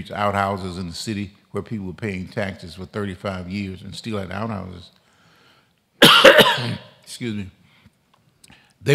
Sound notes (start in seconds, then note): 6.0 coughs